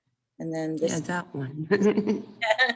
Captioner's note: laughs